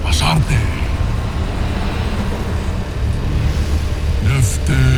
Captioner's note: eerie music playing; evil energy whoosh & crackle